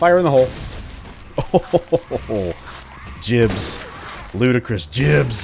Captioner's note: pleasantly amused chuckle